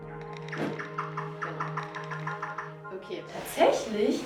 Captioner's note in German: Fledermausgeräusche